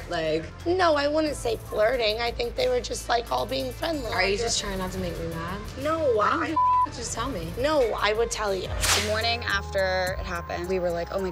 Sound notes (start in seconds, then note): 6.5 beep